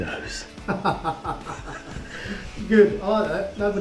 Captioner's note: laughs